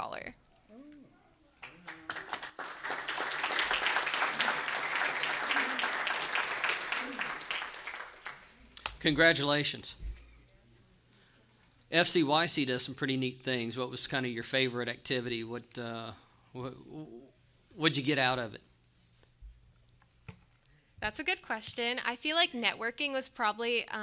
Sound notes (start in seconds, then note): 7.5 applause